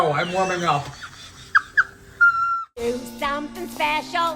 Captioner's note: laughs